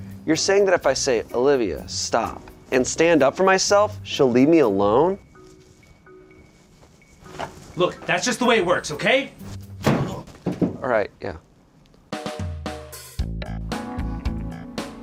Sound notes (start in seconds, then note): 9.7 ball thuds; 12.2 upbeat music